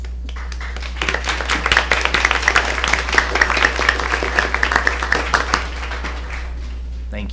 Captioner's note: applause